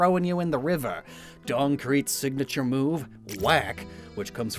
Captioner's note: normal voice